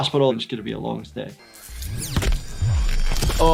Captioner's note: crunching noises; body slamming into ground